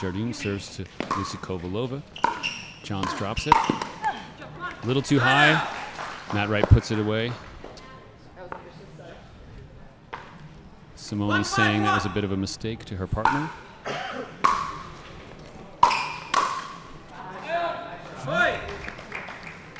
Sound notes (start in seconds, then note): 7.9 players chattering; 13.1 ball bouncing; 17.6 players chattering; 18.5 audience applauding